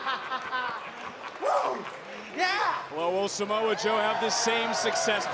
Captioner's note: laughs